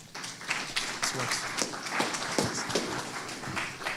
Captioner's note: applause